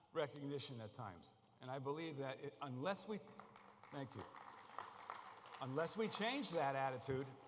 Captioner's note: applause